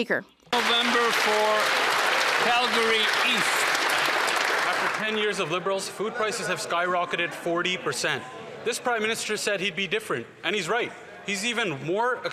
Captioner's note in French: applaudissements